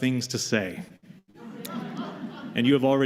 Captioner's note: laughter